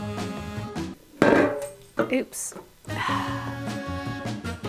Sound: sigh

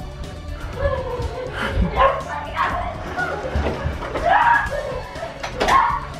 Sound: kids laughing, Logan barking

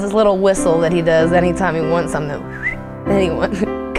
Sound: whistles

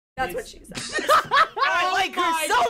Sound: cracking up

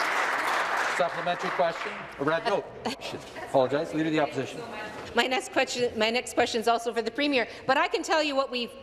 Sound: applause

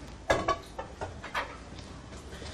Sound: clanking sound

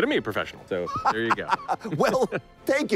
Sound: laughs

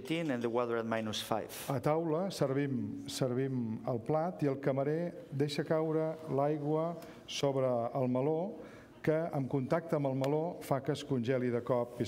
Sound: speaking catalan

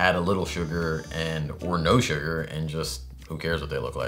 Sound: none

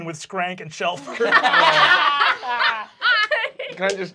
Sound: laughing

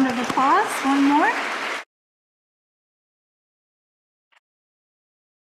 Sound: audience applauding

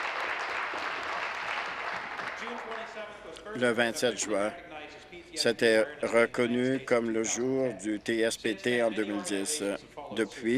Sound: applause

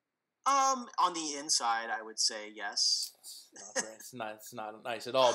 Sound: laugh

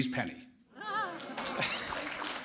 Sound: applause

